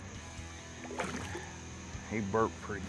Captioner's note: water splashing